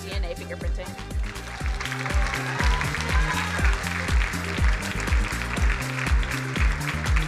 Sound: energetic music; crowd applauding

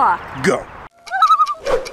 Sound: loon call

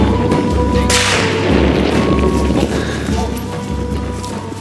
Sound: gunshot

